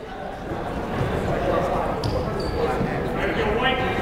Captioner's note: chattering